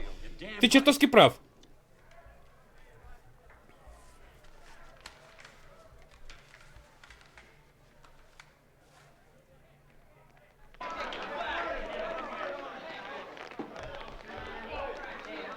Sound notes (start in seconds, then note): 1.7 chatter in background